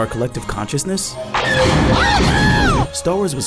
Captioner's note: blasters firing